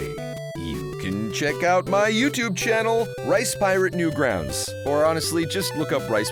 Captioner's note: voice changes